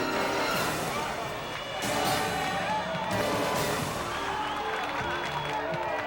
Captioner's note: intense music; people clamoring and cheering